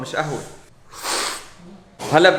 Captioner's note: sips